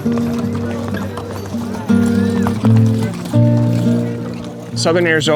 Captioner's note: horses trotting